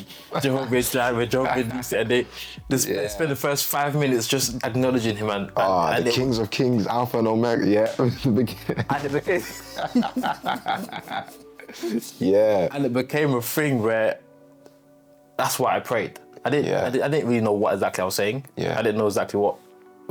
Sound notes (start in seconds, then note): 8.4 laughs